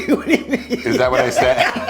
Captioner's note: laughs